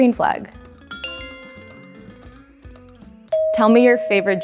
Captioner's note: bell chimes